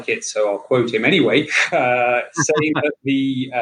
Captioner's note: laughing